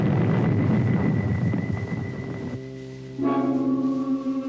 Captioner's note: explosion